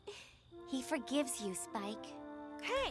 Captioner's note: chuckles